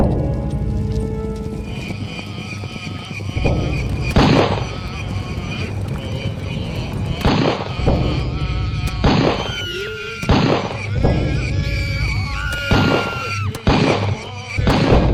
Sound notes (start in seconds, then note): 2.0 drum Beating; 4.1 gunshots Ringing; 8.6 gunshots Ringing; 8.6 women Screaming; 12.7 women Screaming